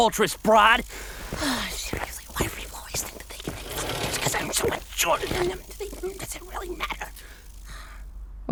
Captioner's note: angry mutterings